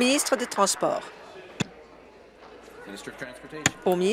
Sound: applause

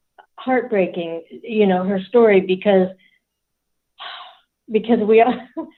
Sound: sighs

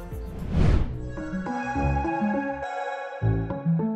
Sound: swooshing sound, followed by music

